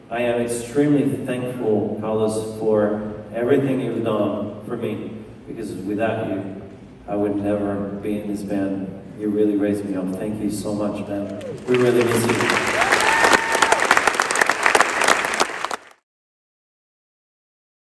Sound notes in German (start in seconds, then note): 11.1 Menge jubelt